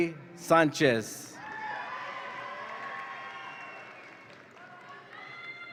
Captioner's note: audience applauds and cheers